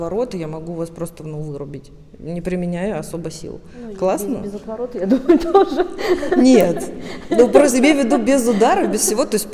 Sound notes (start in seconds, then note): 5.1 laughs